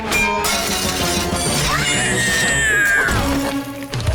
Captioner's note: screeching